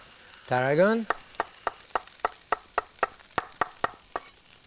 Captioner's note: knife chopping